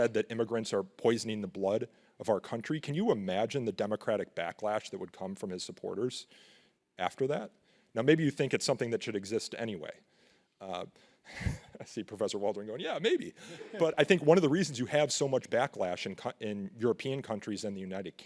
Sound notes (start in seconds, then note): 10.3 laughs